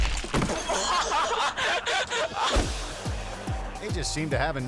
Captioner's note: boys laughing